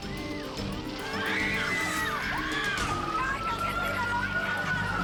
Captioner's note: people screaming; sirens blaring